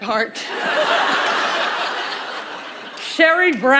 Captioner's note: laughter